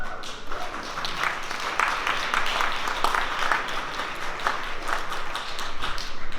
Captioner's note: applause